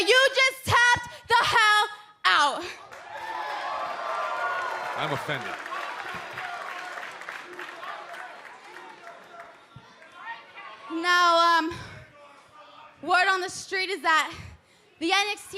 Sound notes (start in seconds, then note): 2.7 cheers and applause; 6.4 fans chanting